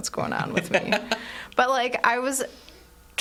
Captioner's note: laughing